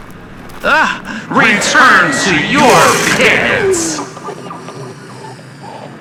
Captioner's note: Wendigo voice as he strikes lost soul back into pit